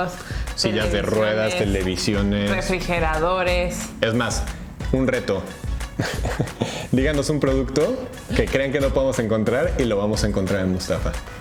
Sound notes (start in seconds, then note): 5.8 laughs